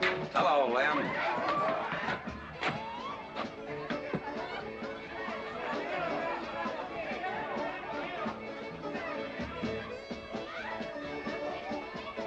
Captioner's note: crowd chattering; saloon music in distance